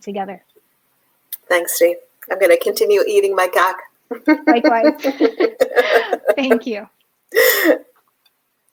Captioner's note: laughs